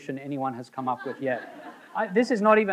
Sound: audience laughing

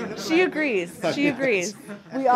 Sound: laughter

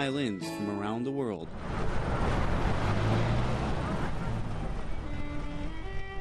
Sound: road noise; violin playing

